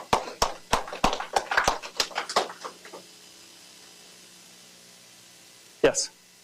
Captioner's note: applause